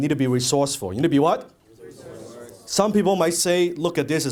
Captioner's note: audience says resourceful